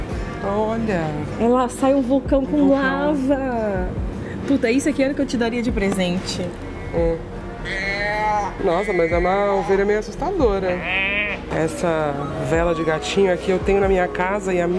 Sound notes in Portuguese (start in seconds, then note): 7.6 balido de ovelha; 10.6 imita ovelha